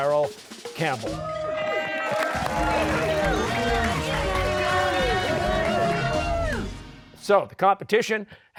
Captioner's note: cheers and applause